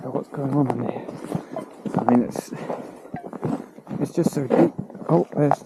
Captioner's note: scrape